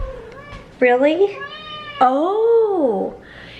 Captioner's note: Harry meows